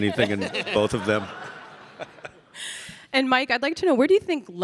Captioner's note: audience laughing